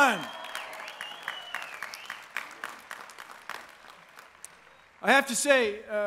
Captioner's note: applause